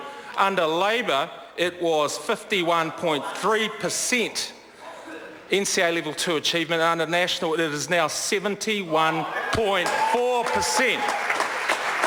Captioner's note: members applaud